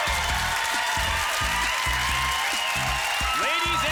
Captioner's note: applause